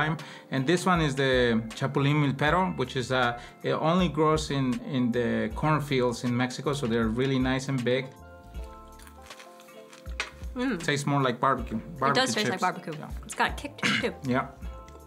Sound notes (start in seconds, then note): 8.6 grasshopper crunching